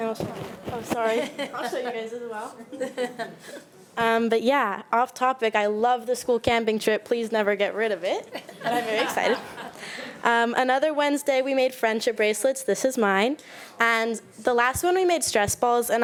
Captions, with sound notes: And I'll show you. Oh sorry, I'll show you guys as well. (board member laughing) But yeah, off topic, I love the school camping trip. Please never get rid of it, (speaks faintly) I'm very excited. Another Wednesday we made friendship bracelets, this is mine. And the last one, we made stress balls